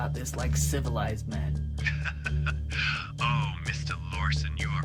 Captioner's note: chuckles